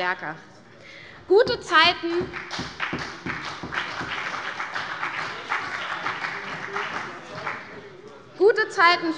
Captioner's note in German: Beifall bei der CDU und dem BÜNDNIS 90/DIE GRÜNEN - Zurufe